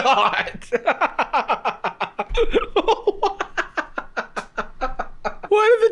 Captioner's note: laughing uncontrollably